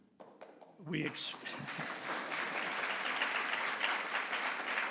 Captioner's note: audience applause